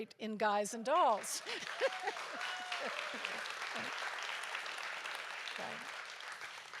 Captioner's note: audience applauds; laughs